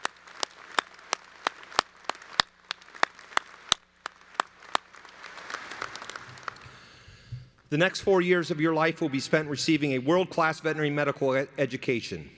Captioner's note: applause